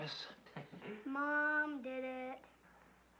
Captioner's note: sing-song voice